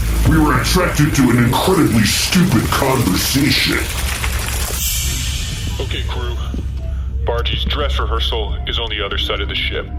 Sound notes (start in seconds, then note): 4.7 transition noise